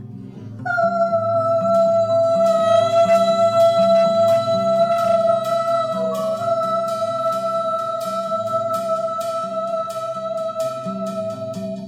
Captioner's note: ahhhhhhhhhh